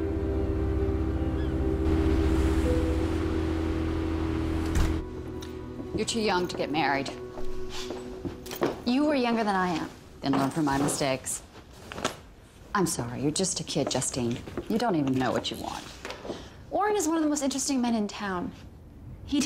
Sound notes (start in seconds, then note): none